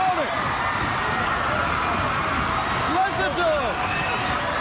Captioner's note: crowd cheering